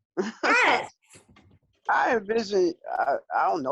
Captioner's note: chuckles softly